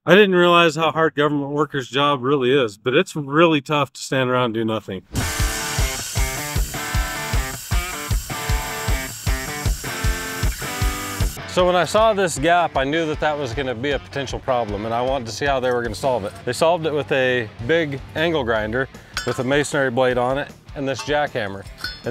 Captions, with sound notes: I didn't realize how hard government workers' job really is, but it's really tough to stand around and do nothing. (upbeat metal rock music) (grinder buzzes) So when I saw this gap, I knew that that was gonna be a potential problem, and I wanted to see how they were gonna solve it. They solved it with a big angle grinder with a masonry blade on it, and this jackhammer.